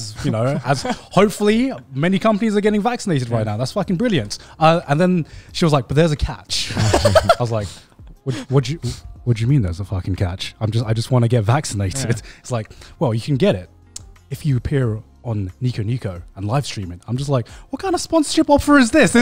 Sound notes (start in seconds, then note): 6.7 laughs